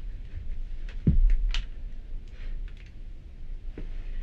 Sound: foot thudding

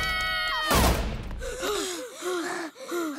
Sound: screaming; gasping

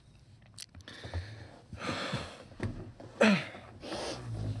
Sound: heavy sighing

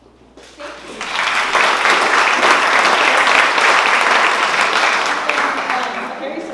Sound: applause

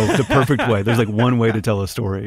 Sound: laughter

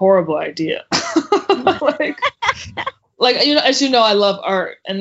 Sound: laughing

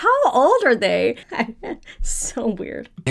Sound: laughing

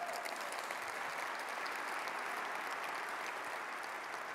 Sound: audience applauds

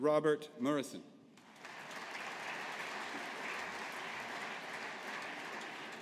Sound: audience applauding

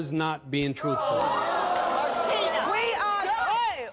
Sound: audience yells and boos

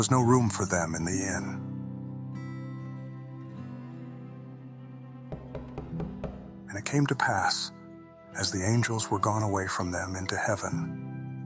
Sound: knocking on door

